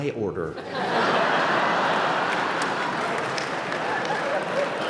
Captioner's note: laughter